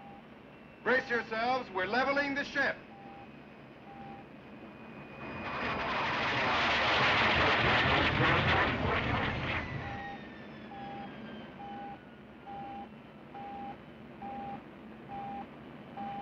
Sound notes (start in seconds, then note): 9.6 beeping Continues More Rapidly